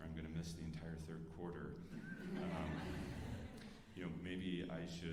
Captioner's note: alumni laughing